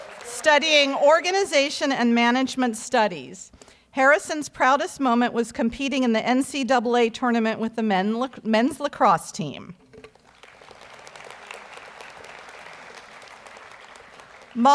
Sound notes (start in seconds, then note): 10.1 audience applauds